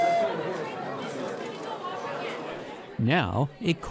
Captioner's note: work whistle blowing; chatter and conversations